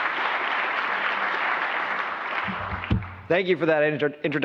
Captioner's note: applause